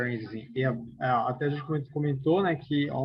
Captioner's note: non-english